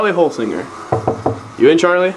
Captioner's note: knocking